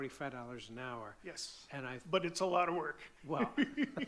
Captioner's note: laughs